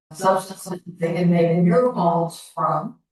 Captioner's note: echo